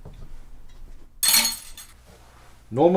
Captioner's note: clattering utensils